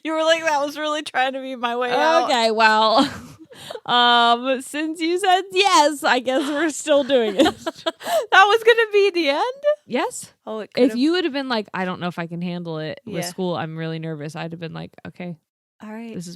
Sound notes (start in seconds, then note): 6.3 laughing